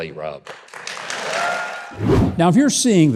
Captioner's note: audience cheers